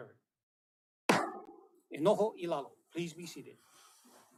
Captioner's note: gavel bangs once